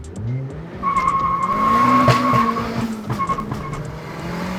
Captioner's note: tires screeching; upbeat music